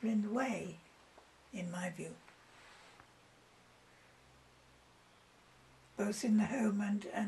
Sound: pauses for 3 seconds

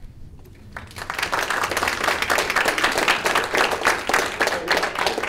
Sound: audience applause

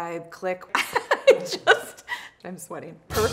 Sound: laughing

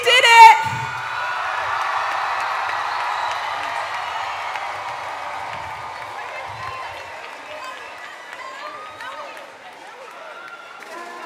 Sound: applause

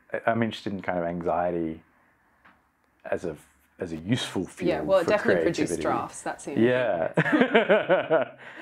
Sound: laughs

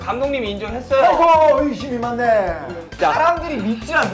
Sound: haha

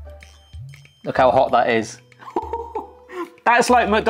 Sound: laughing

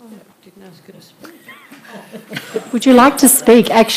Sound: laughs

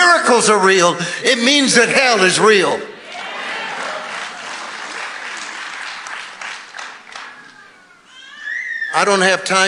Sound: congregation applauding

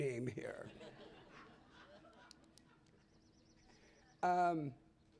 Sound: laughter

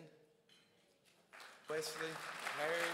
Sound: crowd applauds

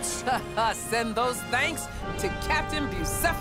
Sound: laughs

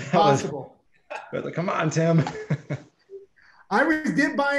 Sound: chuckles

